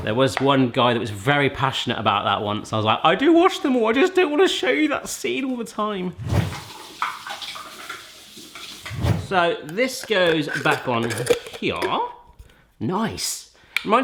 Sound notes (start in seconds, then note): 6.3 water running